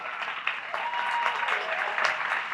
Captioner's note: applause